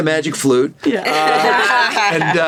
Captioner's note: laughter